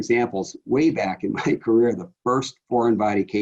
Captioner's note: laughs